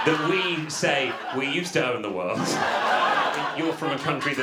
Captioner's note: audience laughter